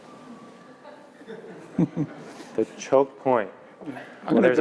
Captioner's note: laugh